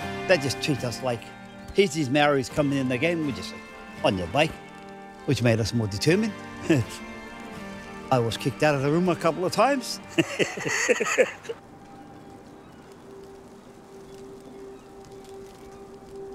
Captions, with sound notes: They just treat us like here's these Māori's coming in again with this, on your bike. Which made us more determined. (scoffing) I was kicked out of the room a couple of times. (laughing)